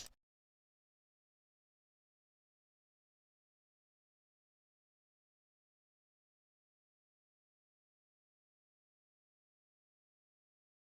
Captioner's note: silence